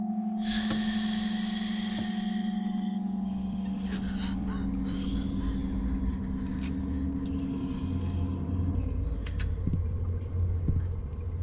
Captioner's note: breathing